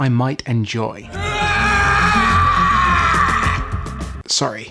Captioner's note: anguished screaming